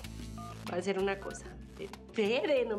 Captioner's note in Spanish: sonido al marcar